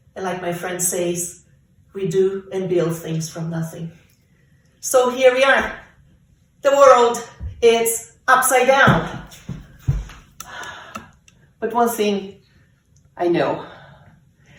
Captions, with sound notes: and like my friend says, "we do and build things from nothing." So here we are, the world is upside down (exhaling) but one this I know,